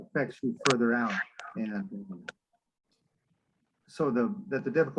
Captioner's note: voice fades